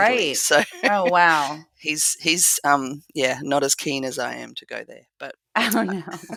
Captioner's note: laugh